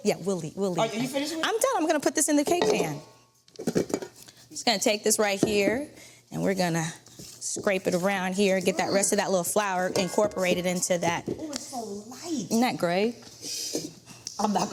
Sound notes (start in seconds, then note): 2.4 bowl clattering